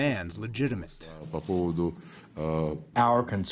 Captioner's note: through translator